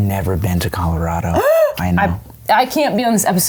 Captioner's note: gasps